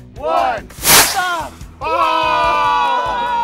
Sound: rockets whirring; loud cheering

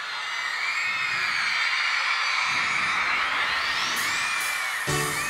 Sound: crowd cheering louder

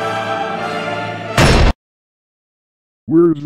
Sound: door slam

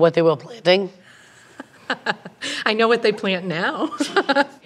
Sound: laughs

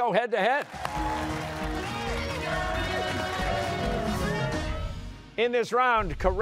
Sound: cheers and applause

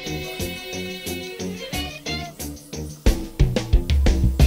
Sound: dentist tool whirs

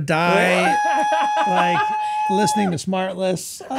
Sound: Glenn squealing

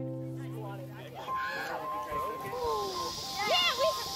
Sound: chattering

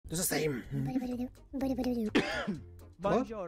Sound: coughing

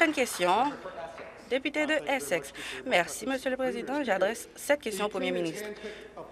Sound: applause

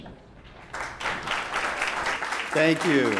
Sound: applause

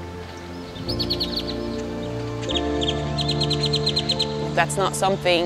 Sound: birds chirping

